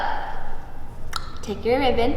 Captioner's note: clicks tongue